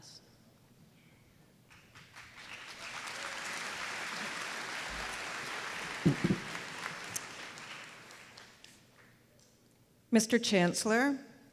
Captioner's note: applause